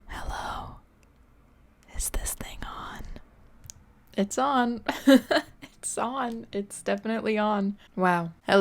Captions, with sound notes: Hello, is this thing on? It's on (laughs) It's on, it's definitely on Wow